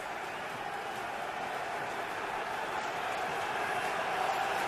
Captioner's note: chanting